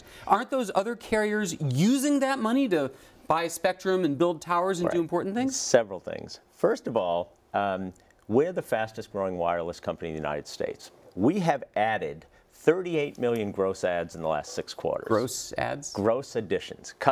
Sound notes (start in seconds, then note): none